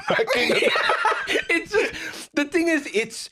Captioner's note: both laughing